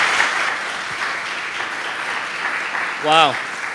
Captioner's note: applause